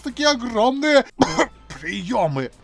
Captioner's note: censorship coughs